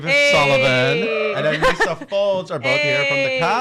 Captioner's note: people shouting